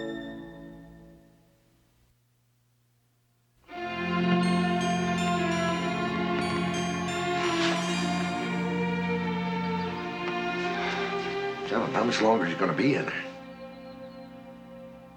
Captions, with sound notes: [theme music] [birds tweeting] John, how much longer is he going to be in there?